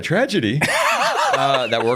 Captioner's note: laughs